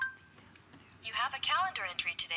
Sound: electronic voice

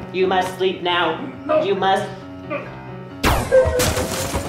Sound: laser blasts

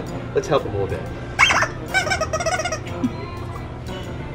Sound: toy squeaks

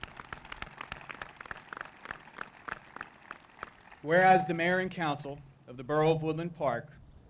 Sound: applause

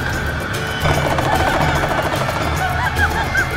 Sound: squealing

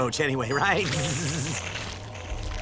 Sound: buzzing

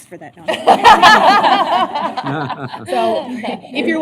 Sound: laughter

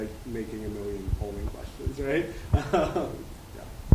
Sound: chuckles

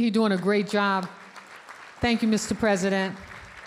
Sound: audience applauding

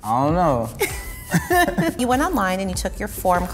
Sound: laughing

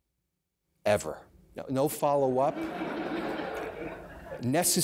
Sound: audience laughter

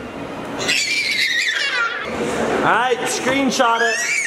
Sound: screaming

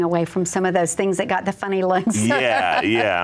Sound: laughs

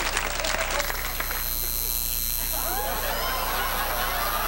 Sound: tattoo needle buzzes

